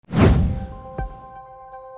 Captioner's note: whoosh